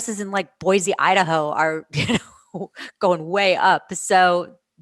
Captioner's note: laughter